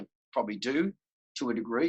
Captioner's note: none